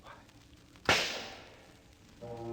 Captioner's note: gunshot